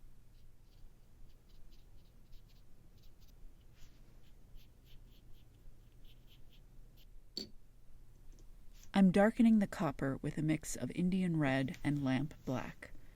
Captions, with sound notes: [very light brush strokes] I’m darkening the copper with a mix of Indian Red and Lamp black.